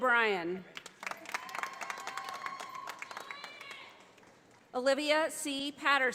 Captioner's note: audience applauding